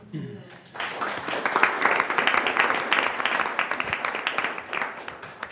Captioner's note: attendees applauding